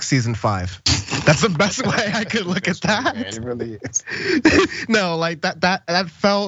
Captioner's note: laugh